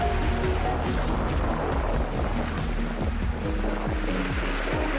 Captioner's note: wind and water rushing